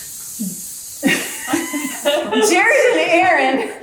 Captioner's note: laughing